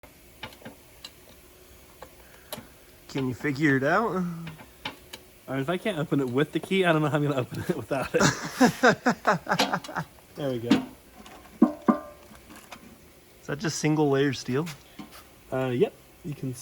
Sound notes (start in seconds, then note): 8.0 laughs